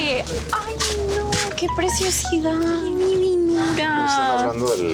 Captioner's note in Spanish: Alerta de mensaje